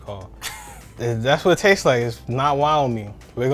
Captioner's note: laughing